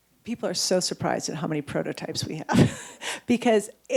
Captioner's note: chuckles